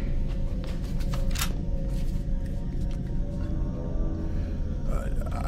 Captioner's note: shotgun cocking